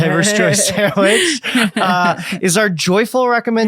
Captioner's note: laughing